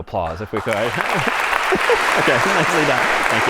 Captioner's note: applause